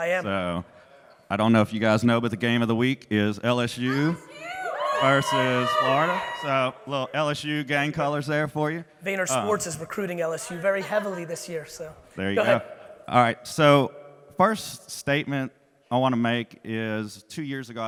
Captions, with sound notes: - I am. - I don't know if you guys know but the game of the week is LSU. - LSU! (audience cheering) - Versus Aggies, so little LSU game colors there for you. - Thank you. VaynerSports is recruiting LSU very heavily this year so, go ahead. - There you go. All right, so first statement I wanna make is two years ago,